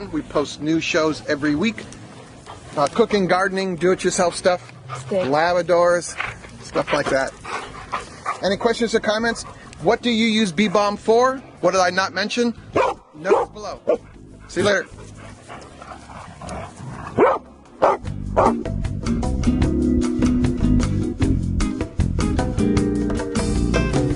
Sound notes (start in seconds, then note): 17.1 dog barks; 18.9 upbeat music